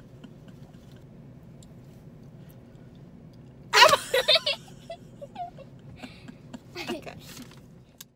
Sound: giggles

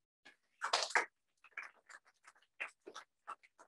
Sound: applause

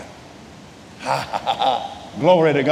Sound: chuckles

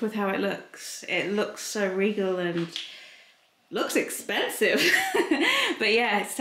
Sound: laughs

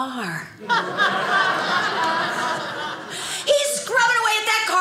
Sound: audience laughing

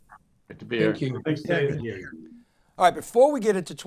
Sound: faintly speaks

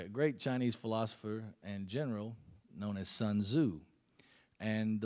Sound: none

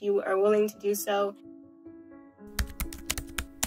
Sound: typing sound effects

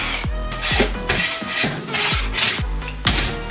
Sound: sawing

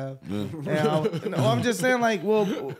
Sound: laughing

